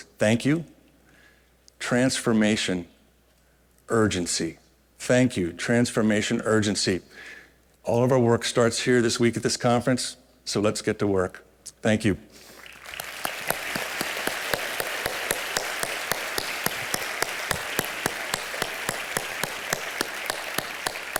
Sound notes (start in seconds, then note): 12.5 applause